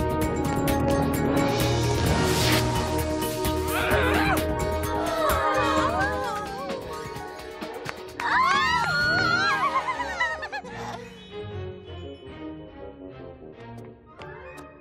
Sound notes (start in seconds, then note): 4.9 girls sighing amorously; 8.2 cheering